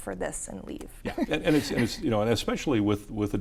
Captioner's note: chuckles